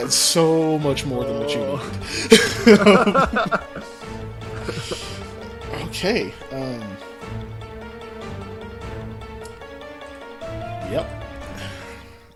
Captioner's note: laughter